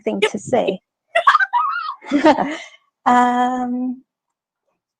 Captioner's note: laughs